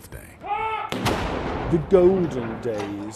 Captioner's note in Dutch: kanonnen bulderen